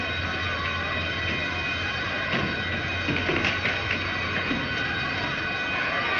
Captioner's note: people clamoring outside